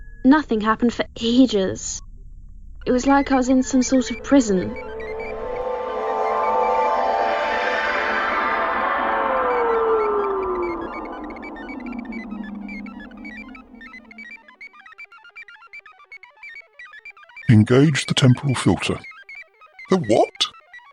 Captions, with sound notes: Nothing happened for ages it was like I was in a sort of prison [teleportation sound] Engage the temporal filter The what?